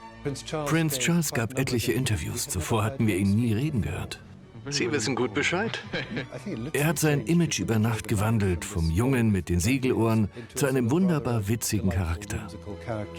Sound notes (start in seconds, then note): 6.8 laughs